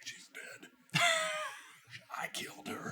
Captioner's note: laughs